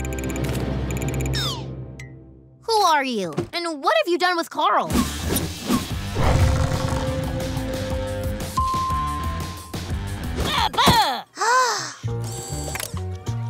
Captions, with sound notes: Who are you and what have you done with Carl? [dinging] [gasping]